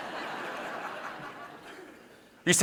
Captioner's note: audience laughing